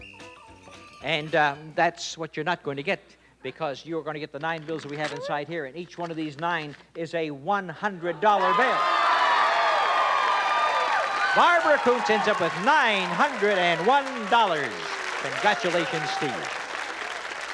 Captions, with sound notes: -And that's what you're not going to get, because you're gonna get the nine bills that we have inside here. And each one of these nine is a $100 bill. (cheering and applause) Barbara Koontz ends up with $901. Congratulations to you.